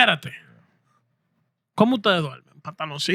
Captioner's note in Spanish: Hablando en idioma extranjero